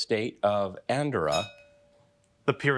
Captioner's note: bell dinging